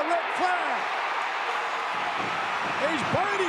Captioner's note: audience cheering